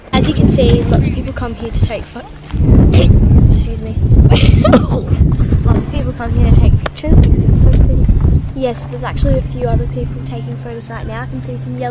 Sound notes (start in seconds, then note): 2.5 wind; 4.3 laughs; 4.4 coughs